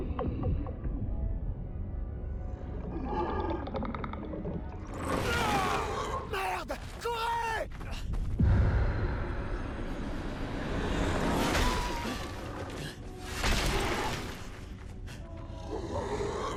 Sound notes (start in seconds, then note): 11.5 scream